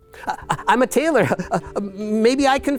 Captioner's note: stammers